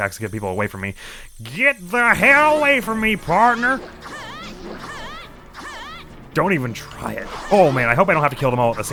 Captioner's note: cowboy voice